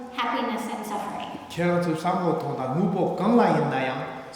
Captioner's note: speaking tibetan